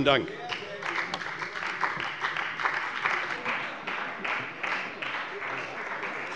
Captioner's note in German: Beifall bei der CDU und dem BÜNDNIS 90/DIE GRÜNEN